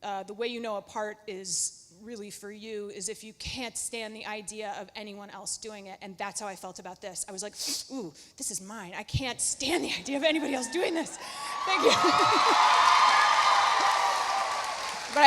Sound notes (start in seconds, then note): 7.6 inhales sharply; 10.4 audience cheering; 11.4 Lauren laughs